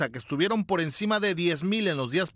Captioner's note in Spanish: hablan en inglés